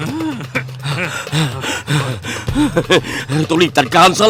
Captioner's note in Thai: หอบ